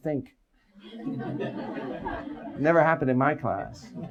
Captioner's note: audience laughs